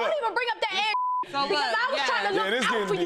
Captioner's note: beep